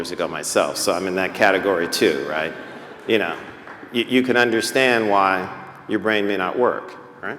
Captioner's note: laughter